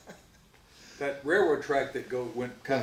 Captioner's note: laughs